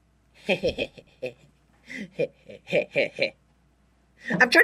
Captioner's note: awkwardly giggles at his own joke